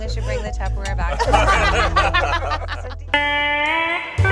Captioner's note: laughter; hula music